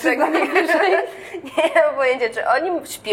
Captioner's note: laughs